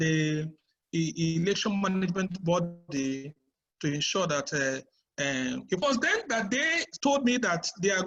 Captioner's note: unstable audio